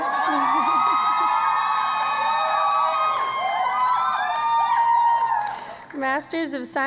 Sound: cheering and Applause

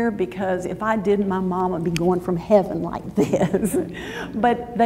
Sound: laughs

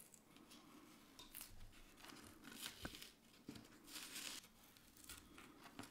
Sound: paper layer crunching

